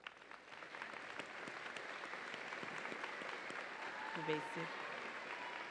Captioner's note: audience applauds and cheers